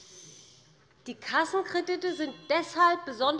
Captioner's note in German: Unruhe - Glockenzeichen des Präsidenten